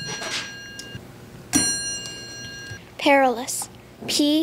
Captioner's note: ding